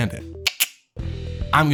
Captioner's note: tongue click